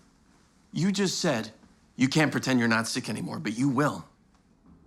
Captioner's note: none